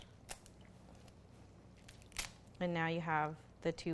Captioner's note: crab cracks